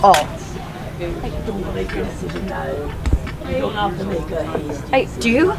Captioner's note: people chattering